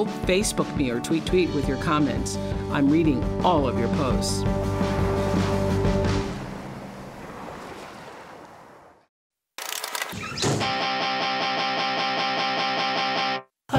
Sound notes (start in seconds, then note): 10.0 door creaks; 11.2 up-tempo music plays